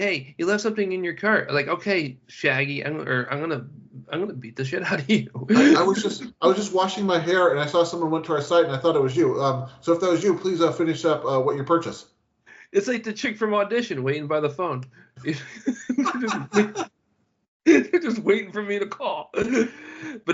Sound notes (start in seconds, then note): 18.0 both Laughing